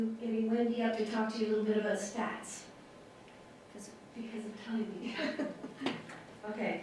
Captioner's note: laughter